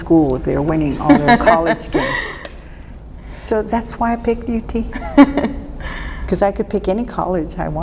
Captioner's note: laughter